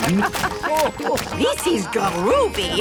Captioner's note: laughing